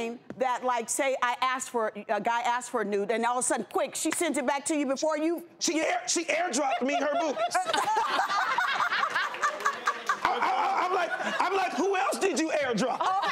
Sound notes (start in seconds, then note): 6.4 laughs